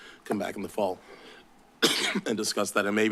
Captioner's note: coughs